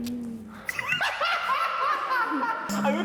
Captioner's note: sigh